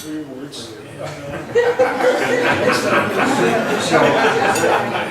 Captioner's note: laughs